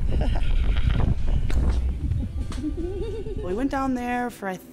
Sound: laughs

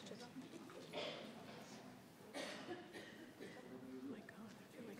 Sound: people chatter

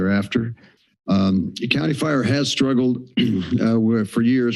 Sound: clears throat

